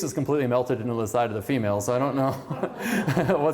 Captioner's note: laughter